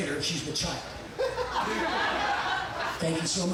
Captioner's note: audience laughing